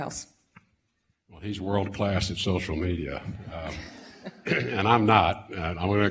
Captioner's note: laughter